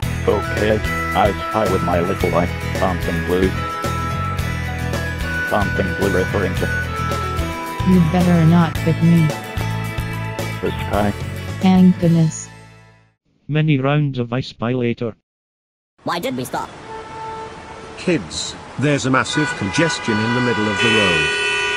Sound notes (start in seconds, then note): 16.4 horns honking